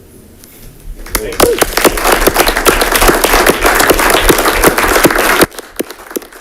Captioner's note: generous applause rings